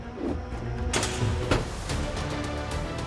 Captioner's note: chute opens